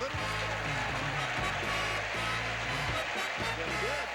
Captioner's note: audience applauding